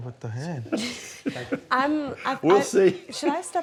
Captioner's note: laughs